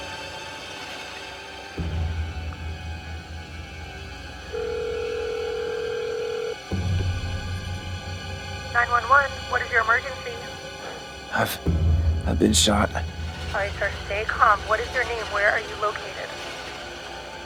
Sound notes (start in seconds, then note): 0.1 dramatic suspenseful music continues; 4.5 phone rings